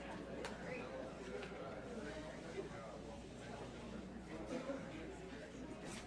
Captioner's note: audience members chattering indistinctly